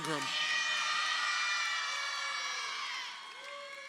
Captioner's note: crowd cheering